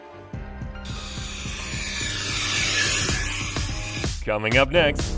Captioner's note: blower whooshes